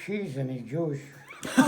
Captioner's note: laughs